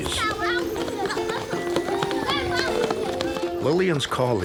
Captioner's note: children chattering